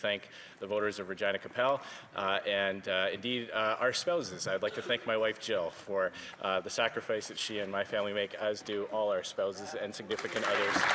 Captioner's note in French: rires; voix de l'interprète